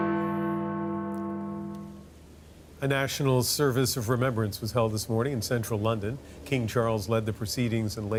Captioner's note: bell ringing